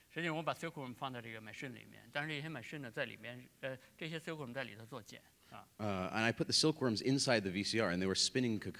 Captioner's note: speaking in Chinese